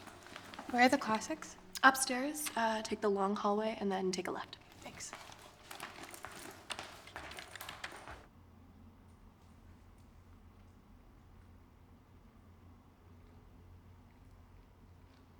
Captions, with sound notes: [footsteps receding] -Where are the classics? -Upstairs. Uh, take the long hallway and then take a left. Thanks. [keys clacking]